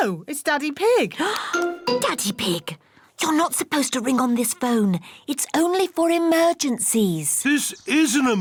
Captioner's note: gasps